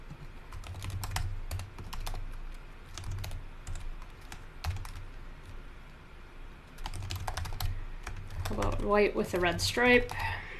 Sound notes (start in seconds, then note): 0.4 keyboard typing